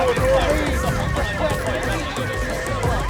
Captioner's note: sirens in the background